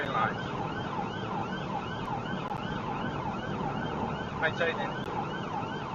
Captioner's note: police car siren